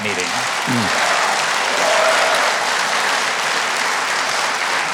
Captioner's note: audience applauding